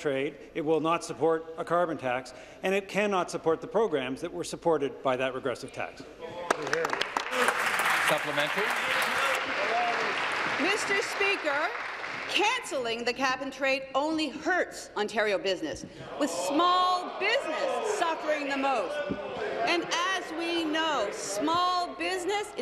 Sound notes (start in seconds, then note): 10.5 applause